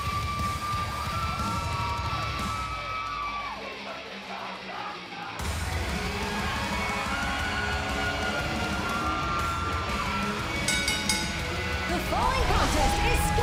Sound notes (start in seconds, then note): 7.7 cheers & applause; 10.5 bell